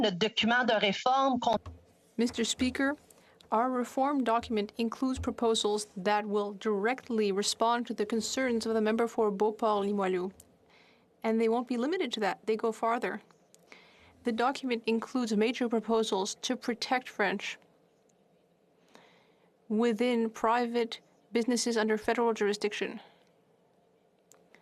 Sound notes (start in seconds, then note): 4.6 speaking French